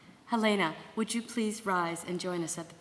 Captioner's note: none